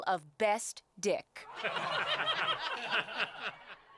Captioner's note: spectators laughing